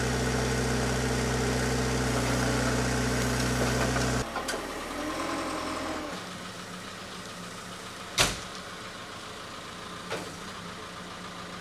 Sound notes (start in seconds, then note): 5.6 engine idling